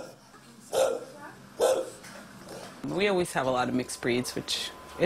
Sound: nats of dogs barking

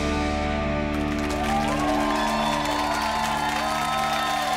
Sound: audience applauding

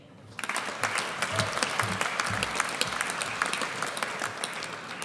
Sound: audience applauds

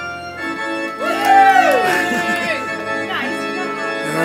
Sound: audience cheers; bright organ music continues

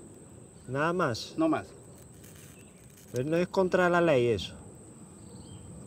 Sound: speaking in foreign language

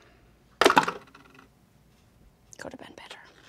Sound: dice clatter

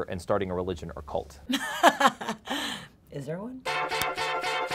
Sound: laughs

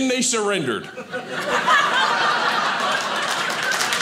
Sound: audience laughing; audience applauding

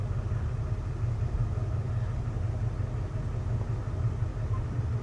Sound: engine roars

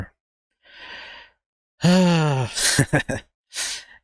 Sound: heavy Sigh

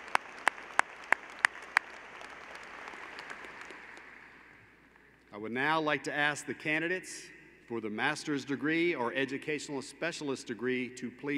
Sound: applause

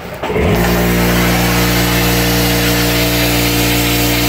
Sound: spraying

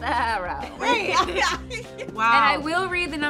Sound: laughing

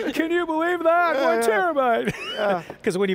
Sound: laughs; all laughing

